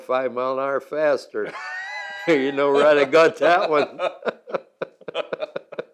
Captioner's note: both laugh